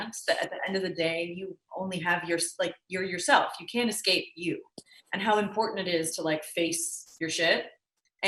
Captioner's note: none